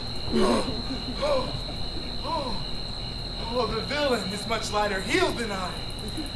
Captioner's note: panting